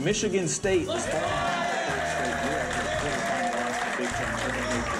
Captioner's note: cheering